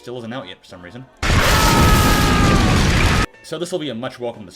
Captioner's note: demonic Screaming